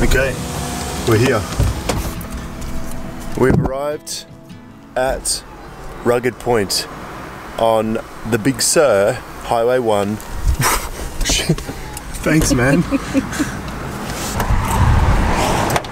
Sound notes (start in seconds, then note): 12.4 laughs